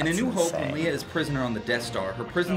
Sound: voice-over

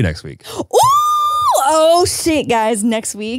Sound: exclaiming

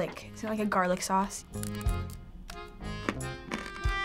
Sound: crunching

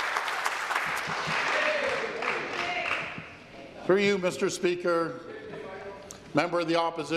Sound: applause

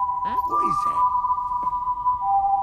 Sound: Death's Whistle

